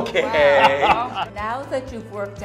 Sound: laughs

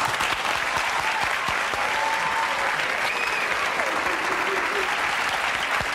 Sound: audience cheering and applauding

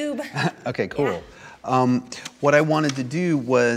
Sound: laughs

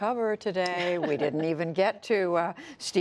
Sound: laughter

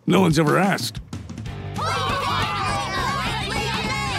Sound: cheering

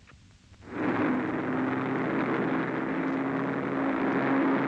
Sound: plane engines roaring

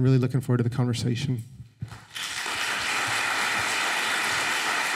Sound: applause

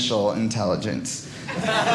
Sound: audience laughing

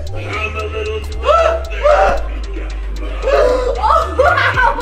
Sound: screams

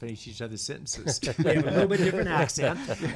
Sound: all laughing

